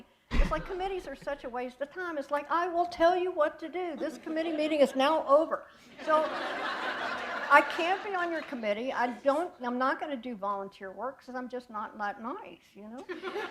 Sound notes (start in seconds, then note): 6.0 laughter